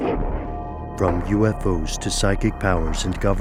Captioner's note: voiceover